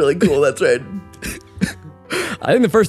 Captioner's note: chuckles; laughs